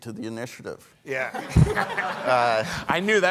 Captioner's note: all laughing